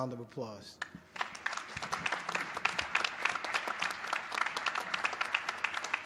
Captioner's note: applause